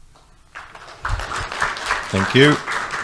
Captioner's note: audience applauds